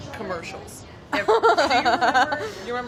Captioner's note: laughs